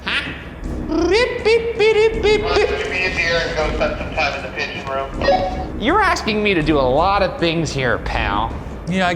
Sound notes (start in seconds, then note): 1.3 mimicking beeping